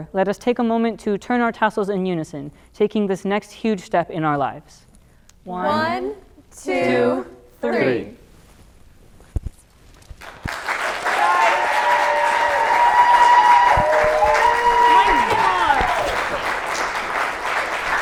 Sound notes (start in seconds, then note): 10.1 audience clapping; 10.5 audience cheering